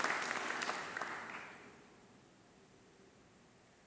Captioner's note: applause